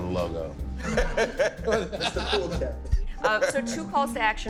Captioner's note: laughing